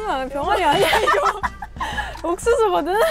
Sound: laughs

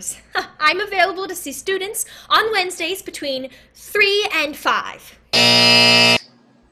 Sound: buzz

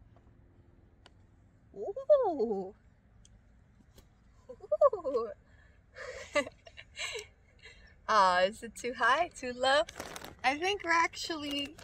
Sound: laughs

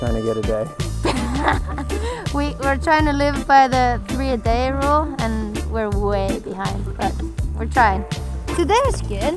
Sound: laughter

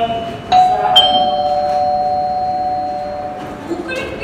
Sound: bell rings

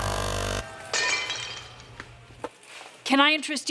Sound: buzzer buzzing; glass breaking

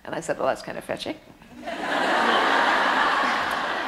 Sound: audience laughter

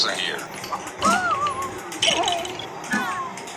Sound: fighting and breaking apart

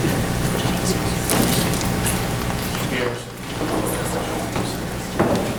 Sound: groups whispering

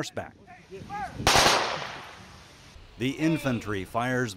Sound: guns firing

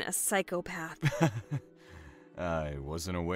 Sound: small chuckle

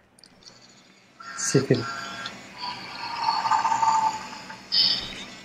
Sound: train whistles

